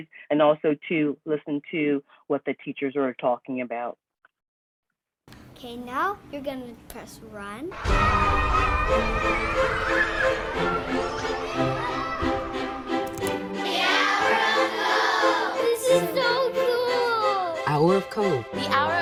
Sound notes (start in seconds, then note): 7.7 children shouting; 8.0 upbeat music